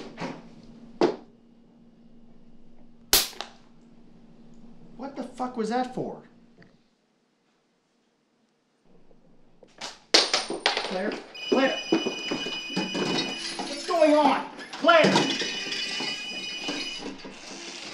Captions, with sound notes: (loud slap) What the fuck was that for? - Claire? (Phone ringing) Claire! What's going on? Claire!